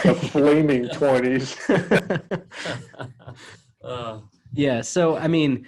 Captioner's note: laughs